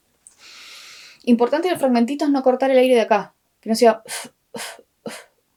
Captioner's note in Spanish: ruido de garganta